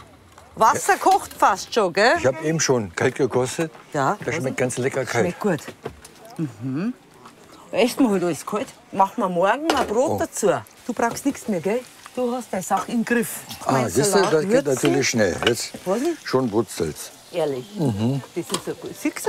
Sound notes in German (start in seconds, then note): none